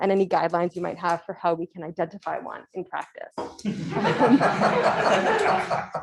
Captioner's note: laughter